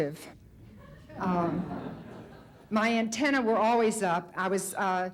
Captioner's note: light audience laughter